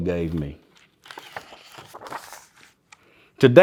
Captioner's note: pages rustling